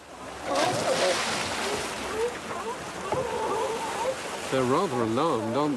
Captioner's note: sea lions barking